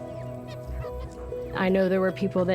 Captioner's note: chickens clucking